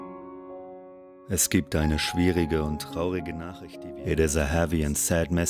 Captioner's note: man speaking foreign language